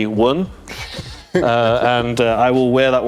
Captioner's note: laughing